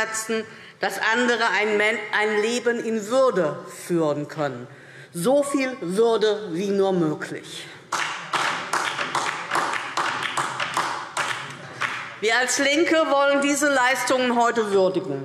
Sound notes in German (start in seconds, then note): 7.9 Beifall DIE LINKE